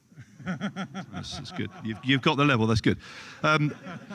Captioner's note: laughter